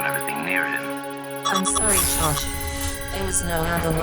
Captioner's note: OTIS distorted; explosive boom